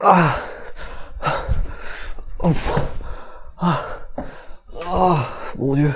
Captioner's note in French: essoufflement